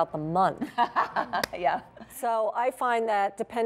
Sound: laughter

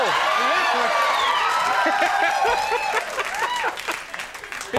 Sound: audience cheers

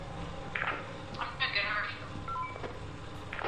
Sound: over walkie-talkie

